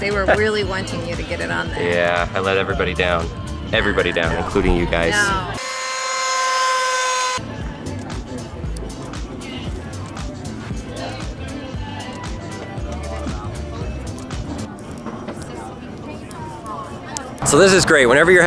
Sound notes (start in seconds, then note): 4.7 speedboat engine screaming; 7.4 upbeat music